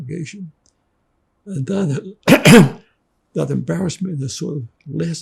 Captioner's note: clears throat